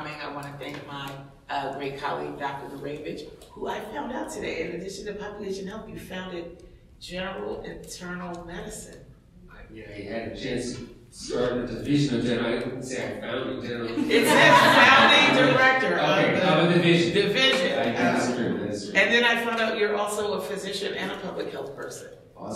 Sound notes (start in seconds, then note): 13.6 audience laughs